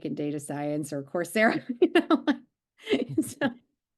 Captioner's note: laughing